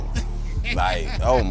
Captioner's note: laughing